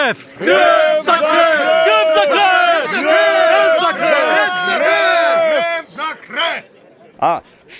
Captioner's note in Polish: okrzyki ludźi